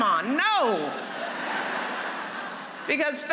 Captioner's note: laughter